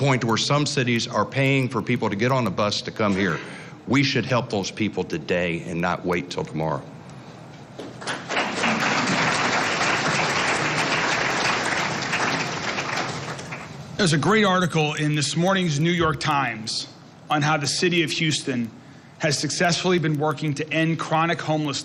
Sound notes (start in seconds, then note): 14.1 applause